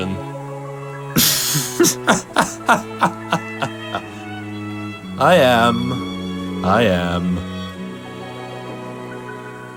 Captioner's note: laughs